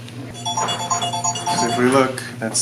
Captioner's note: phone rings